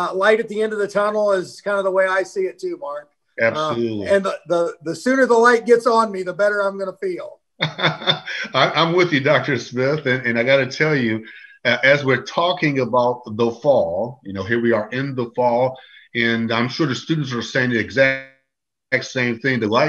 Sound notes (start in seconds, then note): 7.6 laughs